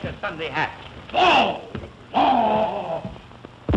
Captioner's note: groaning; boom